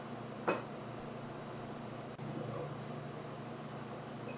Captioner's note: bowls rattling